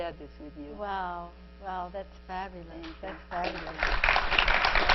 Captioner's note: 鼓掌; clapping